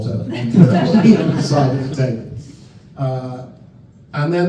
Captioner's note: laughter